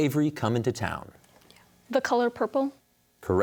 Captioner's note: whispers